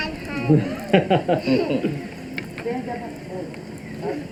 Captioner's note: laughs